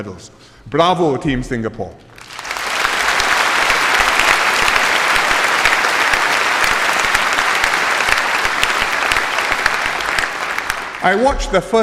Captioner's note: applause